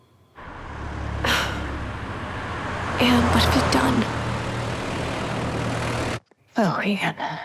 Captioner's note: sighs